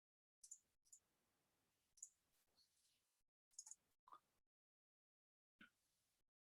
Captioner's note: mouse clicking continues